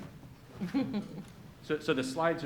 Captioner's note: woman laughs